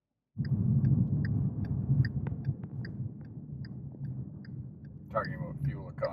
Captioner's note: turn signal clicking